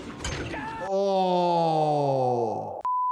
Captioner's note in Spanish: personaje gritando